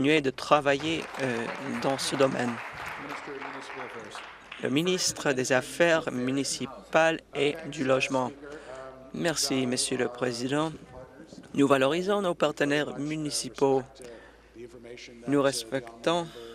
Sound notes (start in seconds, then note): 3.5 applause